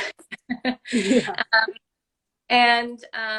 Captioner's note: laughter